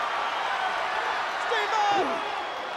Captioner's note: crowd cheering